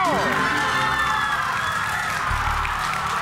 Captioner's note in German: Jubel